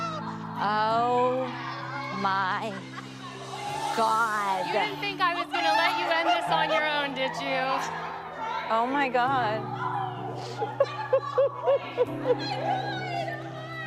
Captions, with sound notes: -Oh. My. God. -You didn't think I was gonna let you end this on your own, did you? -Oh, my god. -[sniffles] -Oh, my god. -[chuckles]